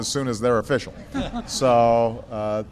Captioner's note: laughter